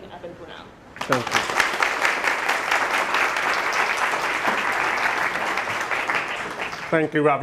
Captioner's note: audience applauding